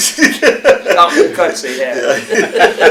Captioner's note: laughter